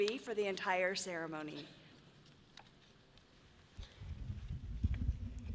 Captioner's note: none